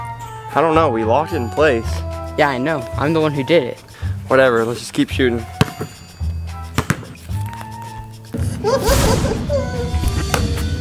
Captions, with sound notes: I don't know. We locked it in place. Yeah, I know. I'm the one who did it. Whatever. Let's just keep shooting. (Laughing)